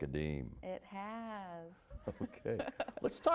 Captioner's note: both laughing